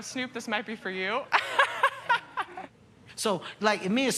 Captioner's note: laughs